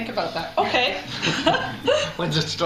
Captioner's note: laughter